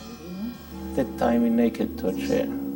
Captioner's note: speaking in foreign language